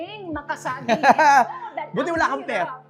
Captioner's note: laughs